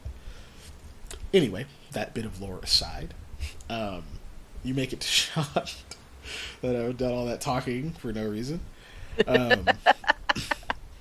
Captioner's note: laughing